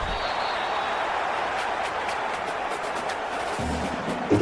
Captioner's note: crowd Noises